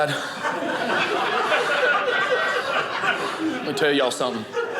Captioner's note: audience laughing